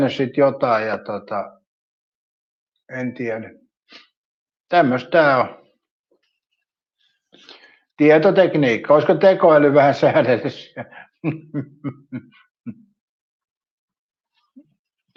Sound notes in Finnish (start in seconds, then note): 12.2 naurua